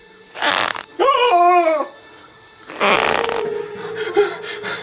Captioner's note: Larry yelling